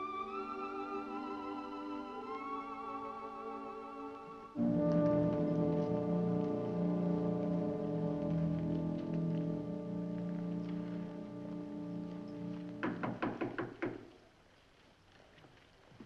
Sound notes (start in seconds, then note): 12.8 door knocking